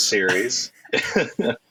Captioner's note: laughter